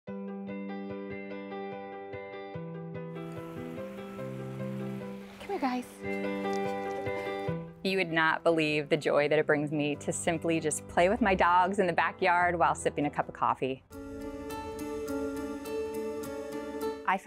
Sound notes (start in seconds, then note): 0.0 gentle upbeat music; 3.2 water splashing; 6.0 footsteps pattering; 13.8 dramatic music